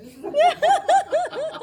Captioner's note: laughing